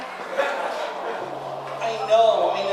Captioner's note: audience groaning